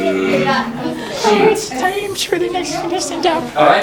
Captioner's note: high voice